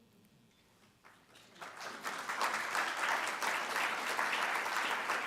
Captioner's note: audience applauding